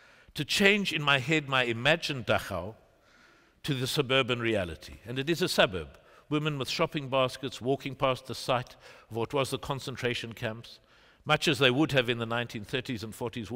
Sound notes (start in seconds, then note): none